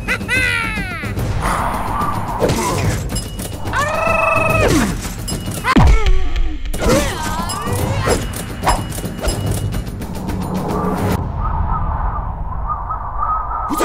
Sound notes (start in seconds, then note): 0.0 laughs; 3.8 battle cry; 6.8 cash register chiming